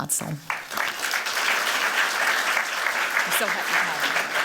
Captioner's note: applause